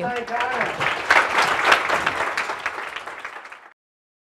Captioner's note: applause